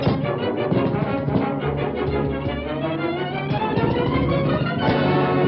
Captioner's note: catapult creaks; dramatic music continues; ammunition thudding; dramatic music continues